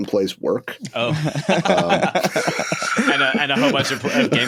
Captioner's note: laughter